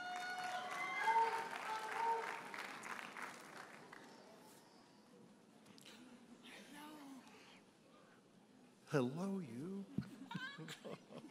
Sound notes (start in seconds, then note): 0.0 audience cheers and applauds